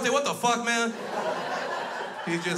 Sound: crowd laughs

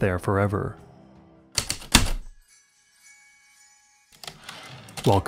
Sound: typewriter keystrokes, return slide

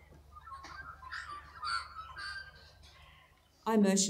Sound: magpies singing

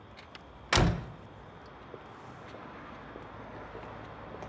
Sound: door slams

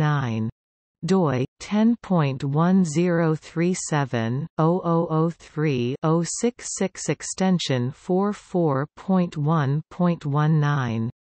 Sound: in German

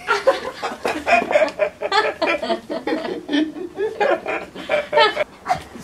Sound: laughing

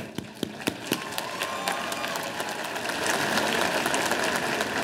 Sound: audience applauding

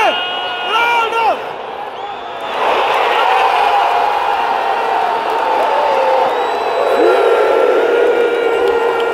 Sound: clap

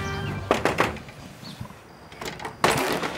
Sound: knocking

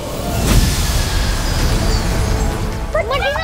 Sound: lightning

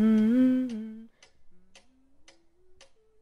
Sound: humming stops

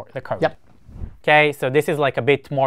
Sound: screen whooshing

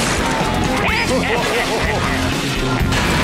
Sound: laughing

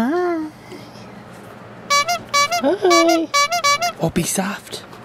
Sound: honking

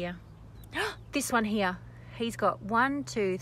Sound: excited intake of breath

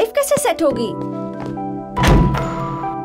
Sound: ball thuds

